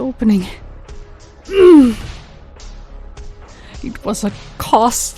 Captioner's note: Anna grunts